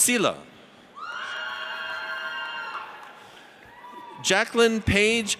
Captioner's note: audience cheers